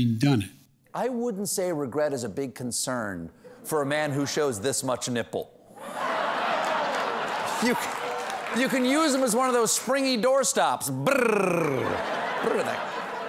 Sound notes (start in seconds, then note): 5.8 audience reacts; 9.8 applause